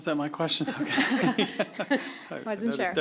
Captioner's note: laughter